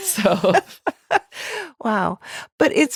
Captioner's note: laughing